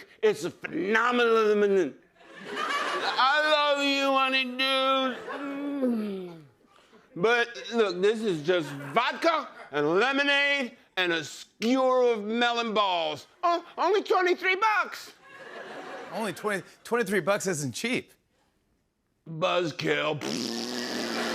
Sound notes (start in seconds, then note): 5.6 moans